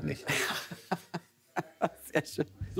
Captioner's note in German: lachend